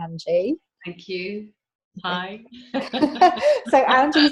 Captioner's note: laughs